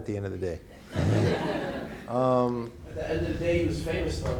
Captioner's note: audience laughing; chuckles